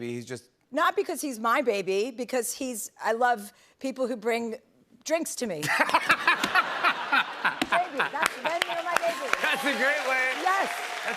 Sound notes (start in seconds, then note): 5.6 laughter